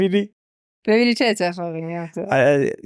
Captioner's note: laughs